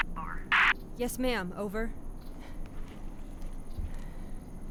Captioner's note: none